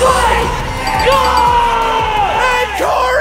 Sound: beeping

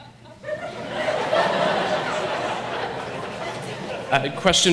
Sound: audience laughs

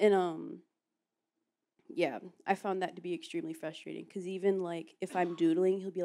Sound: laughs

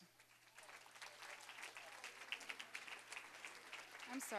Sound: applause

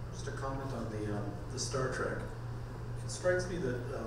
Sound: voiceover

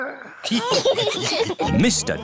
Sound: giggles; laughter

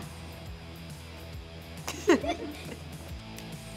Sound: laughing

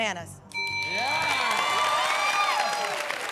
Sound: bell rings

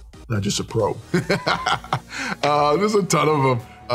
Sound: laughing

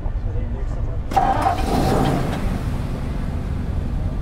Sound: harsh growl as engine starts

